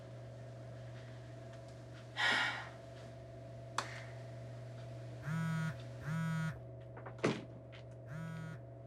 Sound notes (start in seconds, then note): 1.9 sighs; 5.7 phone buzzing